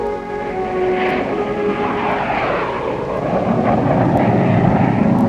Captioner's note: jet engine roars